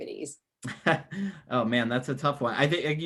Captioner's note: laughs